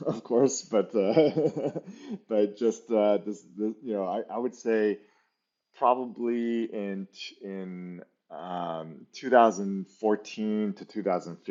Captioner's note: laughs